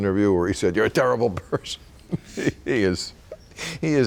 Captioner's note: laughing